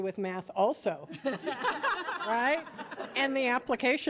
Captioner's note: audience laughing